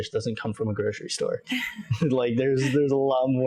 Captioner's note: laughs